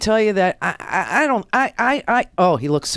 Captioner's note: stutters